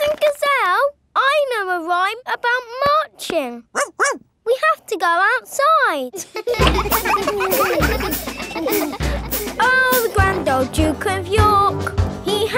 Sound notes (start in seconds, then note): 3.7 barks; 6.1 children laughing